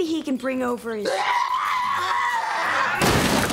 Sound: screaming

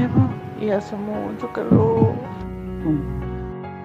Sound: heart sound

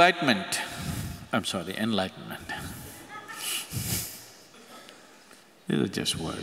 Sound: laughs

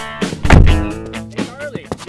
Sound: door slam

